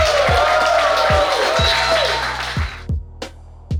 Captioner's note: clapping & Cheering